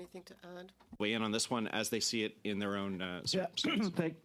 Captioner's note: speaking French